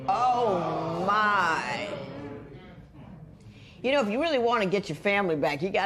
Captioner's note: spectators exclaim